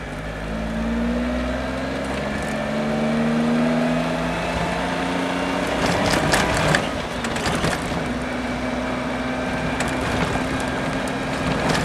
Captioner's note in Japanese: エンジン音